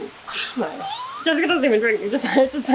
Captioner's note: laughter